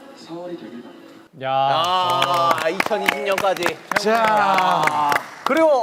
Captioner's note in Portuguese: aplausos